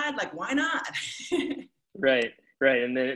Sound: chuckles

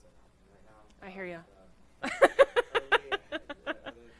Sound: laughs

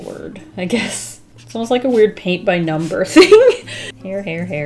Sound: laughs

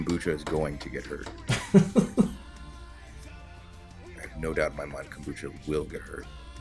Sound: laugh

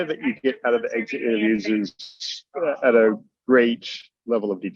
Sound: laughs

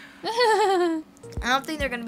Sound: Sabrina giggles

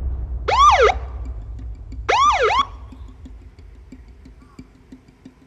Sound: police sirens blaring

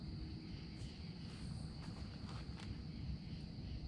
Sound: snapping branches through the trees

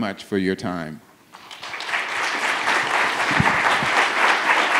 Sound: audience applauds

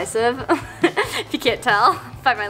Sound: laughs

